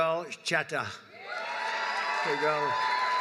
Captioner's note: applause